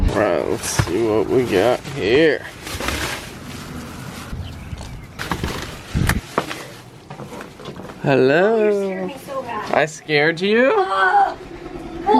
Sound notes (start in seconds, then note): 4.9 door opening and plastic bags crinkling